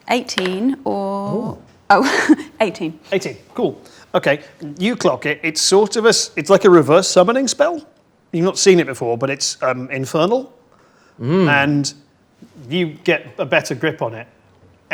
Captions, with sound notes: - 18, or, oh, (laughs) 18. - 18, cool, okay. You clock it, it's sort of a, it's like a reverse summoning spell. You've not seen it before, but it's infernal and you get a better grip on it.